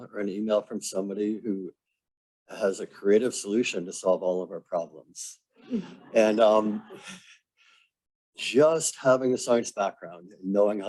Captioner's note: laughter